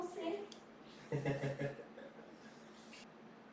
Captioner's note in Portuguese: risos